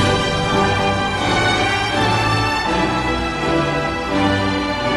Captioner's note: crowd cheering